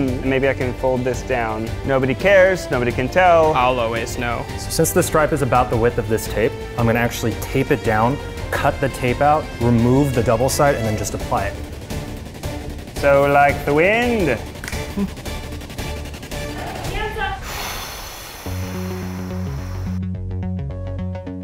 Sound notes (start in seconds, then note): 17.2 air gushing